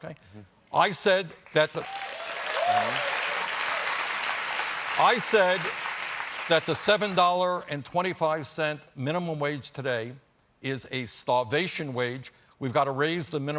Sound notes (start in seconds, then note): 1.4 applause